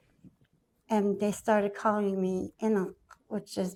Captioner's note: foreign language